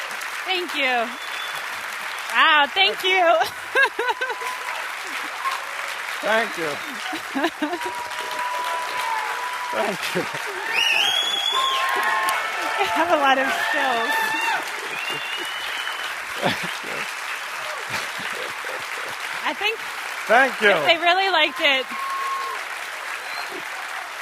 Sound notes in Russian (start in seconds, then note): 3.0 смеётся; 4.8 радостные возгласы и аплодисменты; 10.6 свист и возгласы; 14.8 аплодисменты